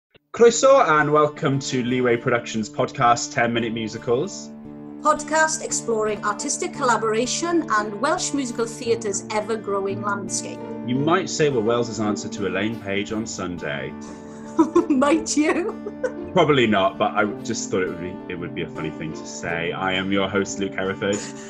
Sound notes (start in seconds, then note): 14.4 she laughs